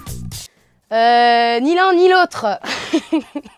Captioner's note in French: Rire